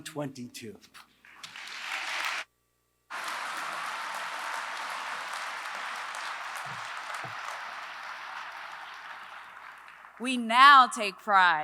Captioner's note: applause